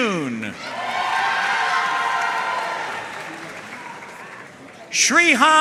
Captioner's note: audience cheering and applauding